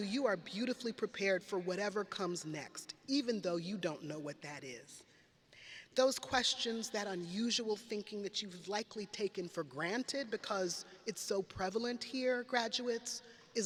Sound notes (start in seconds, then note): none